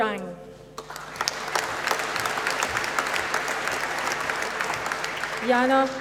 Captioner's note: applause